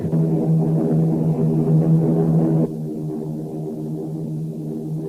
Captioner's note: plane engines roaring